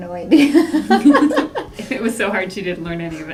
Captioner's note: laugh